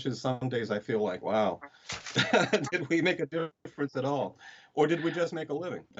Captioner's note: laughs